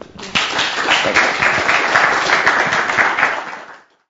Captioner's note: applause